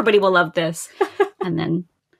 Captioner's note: laughs